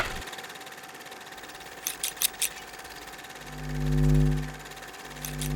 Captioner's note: sewing machine vibrating